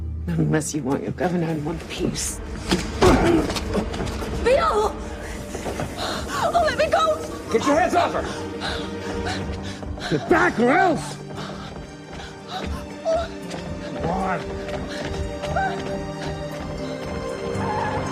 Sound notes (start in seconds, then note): 6.3 gasps; 14.8 whimpering